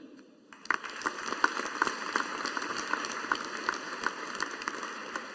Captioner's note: audience applauding